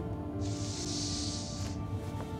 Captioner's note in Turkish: Derin Nefes Alıyor